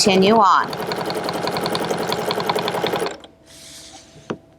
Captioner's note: machine whirring